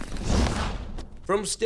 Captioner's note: whoosh